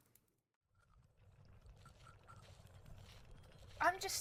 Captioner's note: potions bubble and glasses rattle